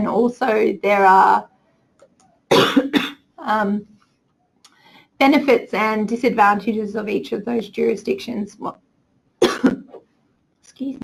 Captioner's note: coughs